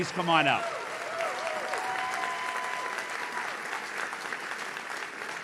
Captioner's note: audience cheers